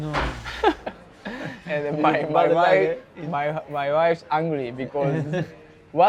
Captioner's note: laughs